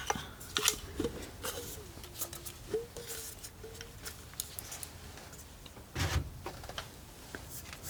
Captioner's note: scratching